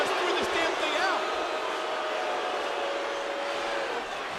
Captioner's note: crowd booing